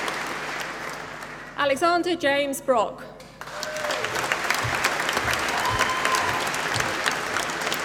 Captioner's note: applause